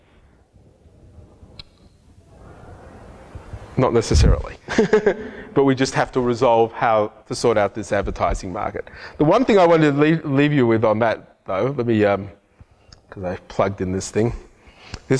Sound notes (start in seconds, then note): 4.9 laughs